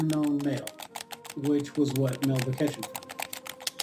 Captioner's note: keys typing